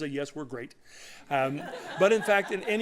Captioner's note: laughter